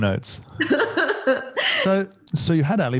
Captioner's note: laughs